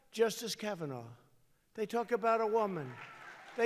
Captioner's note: applause